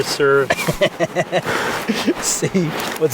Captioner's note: laughing